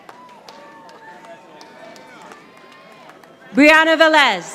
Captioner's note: audience applauding